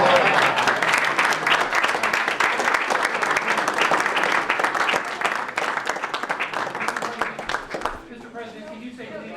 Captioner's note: applause